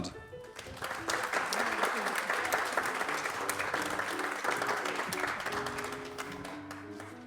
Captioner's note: applause